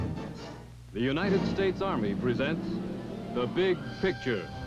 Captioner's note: voiceover